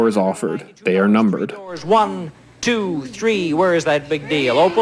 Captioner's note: Audio from "Let's Make a Deal", Monty Hall